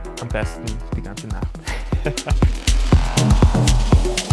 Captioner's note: laughs